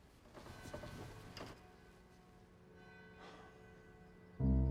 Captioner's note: church bell tolling